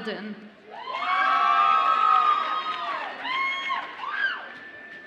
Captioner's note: audience applauds and cheers